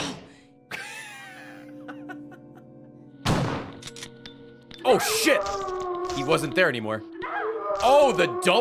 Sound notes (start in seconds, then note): 0.7 laughs